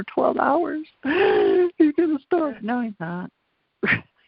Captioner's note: gasps